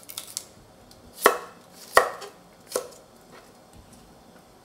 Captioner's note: knife tapping